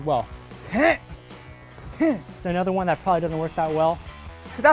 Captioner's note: grunts